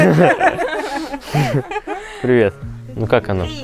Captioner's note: laughing